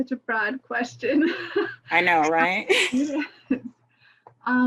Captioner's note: laughs